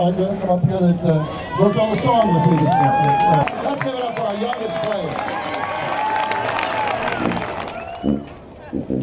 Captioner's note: audience hoots and claps